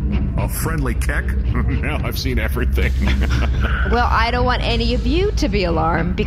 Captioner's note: chuckling